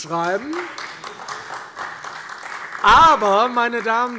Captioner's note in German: Demonstrativer Beifall SPD